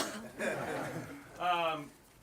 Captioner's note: laughing